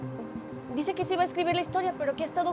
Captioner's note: speaking spanish